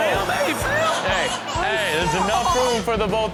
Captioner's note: boy cries